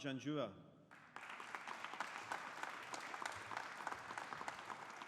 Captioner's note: audience applauding